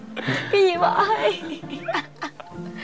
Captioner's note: laugh